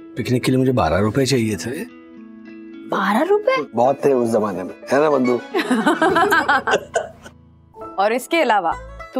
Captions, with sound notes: asked for 12 rupees for a picnic. 12 rupees? It was a lot those days, right Vandana? [laughs] Other than that,